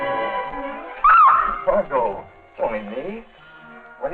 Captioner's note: yelling